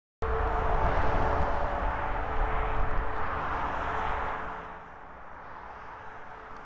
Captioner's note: the sound of traffic on a highway